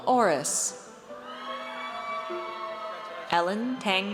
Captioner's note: audience cheers